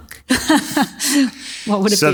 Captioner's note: audience laughs